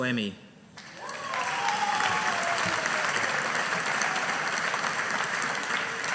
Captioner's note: audience applauding